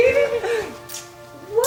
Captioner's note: kisses